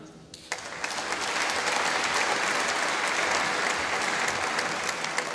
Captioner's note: applause